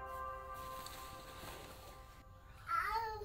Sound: whistles; curtain opening; shouting

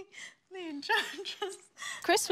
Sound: laughs

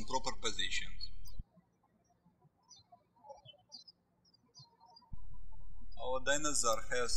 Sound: birds chirping

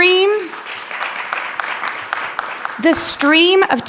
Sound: attendees clapping

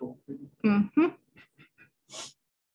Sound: laughs

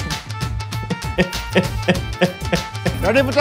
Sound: sobbing

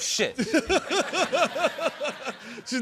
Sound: laughter

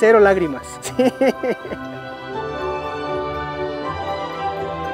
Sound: laughing

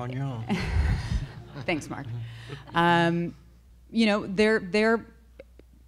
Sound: laughs

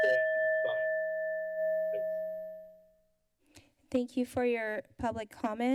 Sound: bell ringing

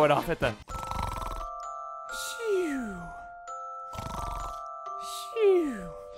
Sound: snoring

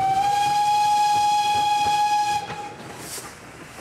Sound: train whistle

